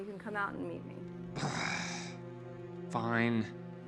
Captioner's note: groaning; ominous orchestral music